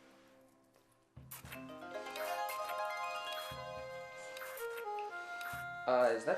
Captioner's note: slurping; magical peaceful music